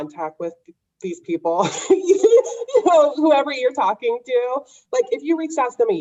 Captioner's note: laughs